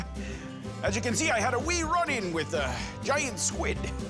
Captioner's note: chuckles